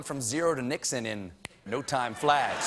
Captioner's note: audience reacts